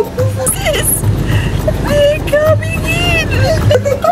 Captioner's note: laughs